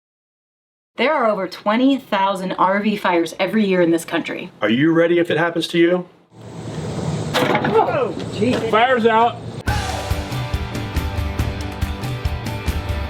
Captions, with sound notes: Are you ready if it happens to you? (exploding) - Fire's out. (upbeat music)